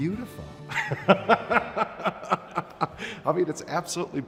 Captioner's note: laughs